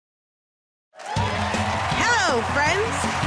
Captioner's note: cheers and applause